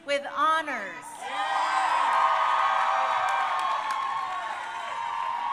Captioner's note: crowd cheering